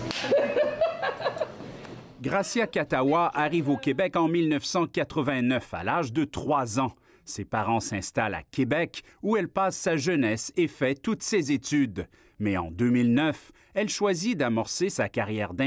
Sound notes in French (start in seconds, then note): 4.5 rires